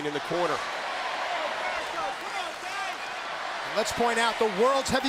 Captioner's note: applause